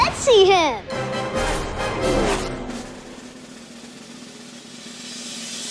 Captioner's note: racing cars buzzing